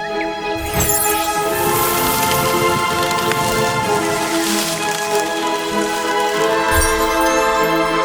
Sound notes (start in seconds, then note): 2.1 branches creak and crack